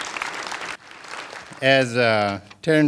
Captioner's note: applause